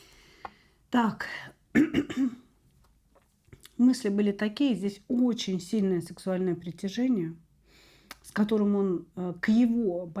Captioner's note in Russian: откашливается